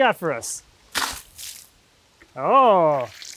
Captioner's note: water splashes